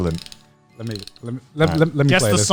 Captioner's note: music box winding